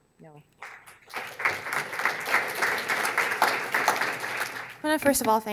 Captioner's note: audience applauding